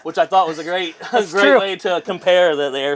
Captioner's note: laughs